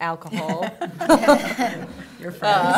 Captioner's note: laughter